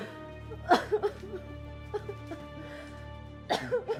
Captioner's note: Julie sobs